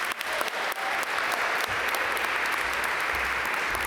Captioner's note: audience applaud